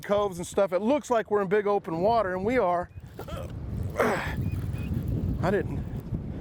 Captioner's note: grunting